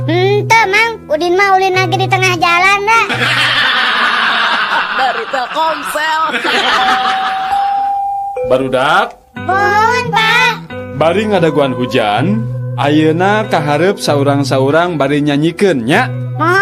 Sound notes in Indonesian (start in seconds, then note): 7.3 tertawa